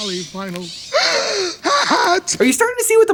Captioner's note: Al gasping